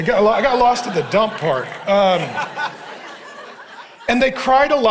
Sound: congregation laughing

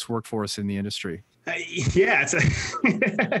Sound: laughs

